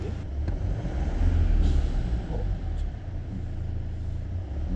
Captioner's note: another Bang